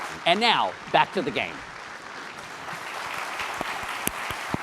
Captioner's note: applause